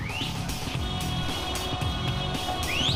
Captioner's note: whistling